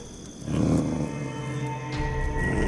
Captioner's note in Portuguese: Cachorro rosnando